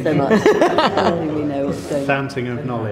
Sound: laughter

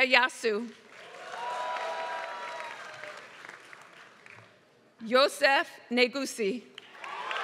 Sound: applause; applause

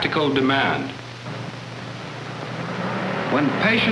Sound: army ambulance approaches

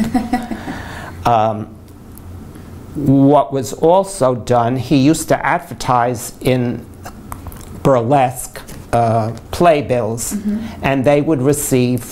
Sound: laughter

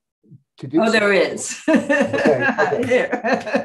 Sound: laughs

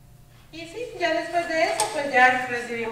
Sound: speaking spanish

